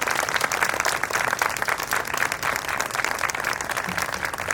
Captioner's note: audience applauds